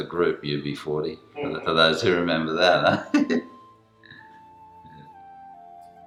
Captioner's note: chuckles